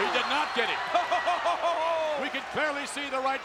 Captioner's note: King chuckles